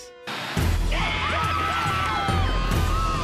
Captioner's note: more screaming